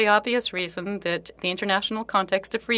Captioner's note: speaking French